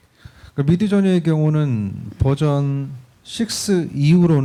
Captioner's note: speaking korean